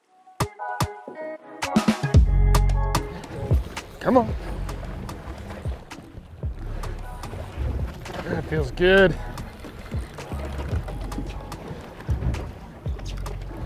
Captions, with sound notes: (reel buzzing) Come on. (mellow music continues) That feels good! (mellow music continues)